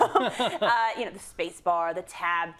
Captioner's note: laugh